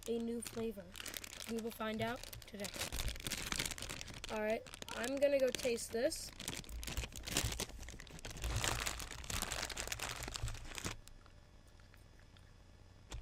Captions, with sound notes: We will found out today. Alright, I'm gonna go taste this. (plastic crinkling)